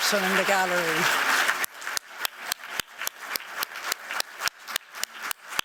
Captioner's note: applause